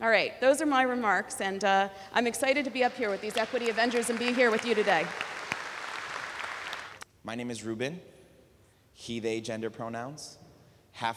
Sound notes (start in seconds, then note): 5.2 applause